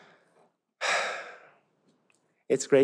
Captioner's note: sighs